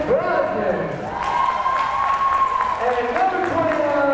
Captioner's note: crowd cheering